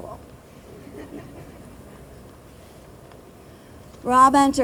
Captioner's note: group laughing